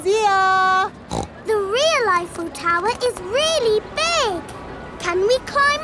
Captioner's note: snorts